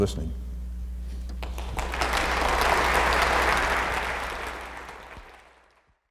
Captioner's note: applause